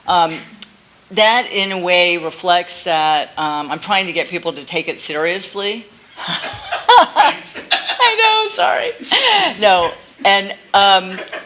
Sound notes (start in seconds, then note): 6.2 laughs